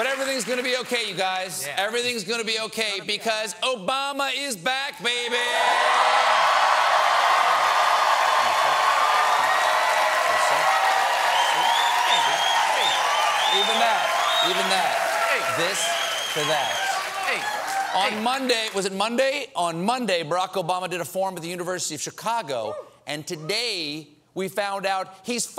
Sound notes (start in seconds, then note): 13.6 cheers and applause